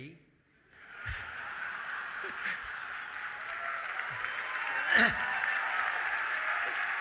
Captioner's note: audience cheering; audience laughing